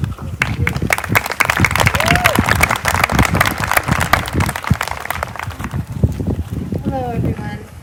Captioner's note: applause